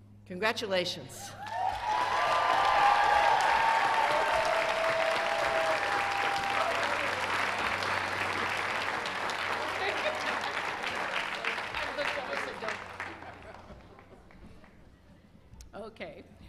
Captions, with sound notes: CONGRATULATIONS![CHEERS AND APPLAUSE]